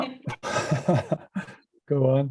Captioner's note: laughs